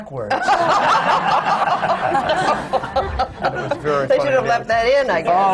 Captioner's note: laughter